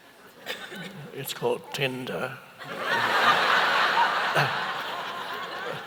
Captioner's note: audience laughs